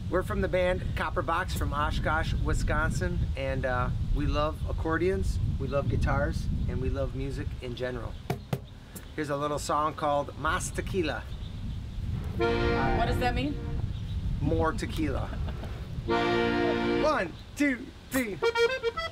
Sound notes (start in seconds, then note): 8.3 banging; 12.3 accordion music; 16.0 accordion music; 18.1 accordion and guitar music